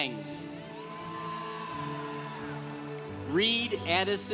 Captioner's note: congregation cheering